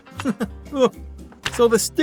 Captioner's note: chuckles